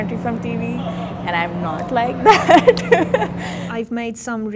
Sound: giggling

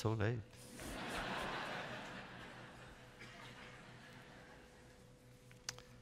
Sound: laughter

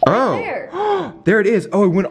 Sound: gasping

